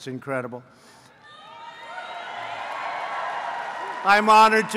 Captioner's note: applause